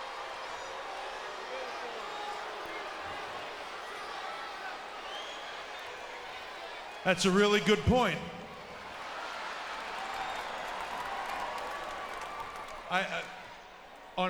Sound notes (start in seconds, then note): 9.2 audience laughs; 11.1 audience cheers